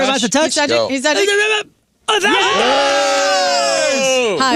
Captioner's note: cheering